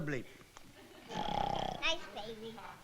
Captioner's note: snores